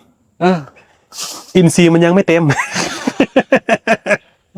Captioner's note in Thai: เสียงสูดหายใจ; เสียงหัวเราะ